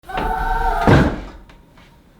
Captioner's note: bump